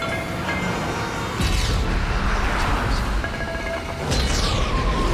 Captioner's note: explosions boom